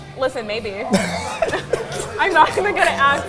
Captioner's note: both laughing